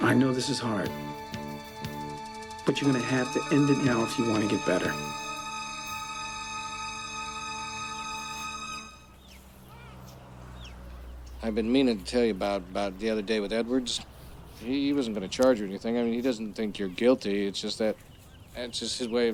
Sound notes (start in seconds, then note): 5.8 dramatic music; 9.5 birds chirping